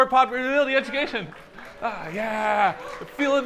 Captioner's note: applause